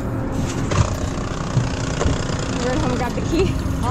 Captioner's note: motor revs